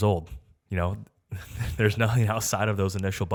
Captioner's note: chuckles